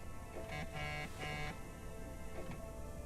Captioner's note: clock ticking; buzzing